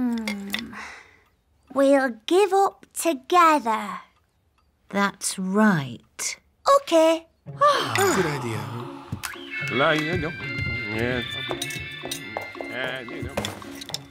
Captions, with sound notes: Um... We'll give up together! - That's right. - OK! - (all sigh) - Good idea. (hums)